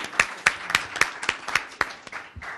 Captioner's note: applause